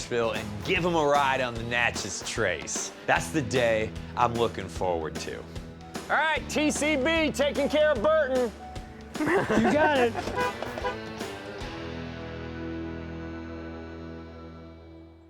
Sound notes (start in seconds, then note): 9.0 laughing; 10.2 honking